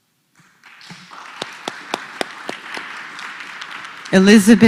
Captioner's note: applause